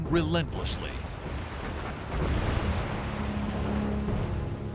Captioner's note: explosions